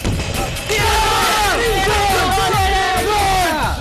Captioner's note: shouting